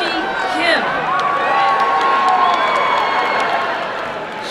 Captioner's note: applause and cheering